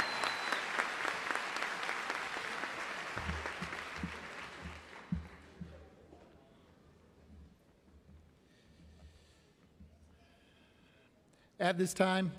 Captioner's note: cheering and applause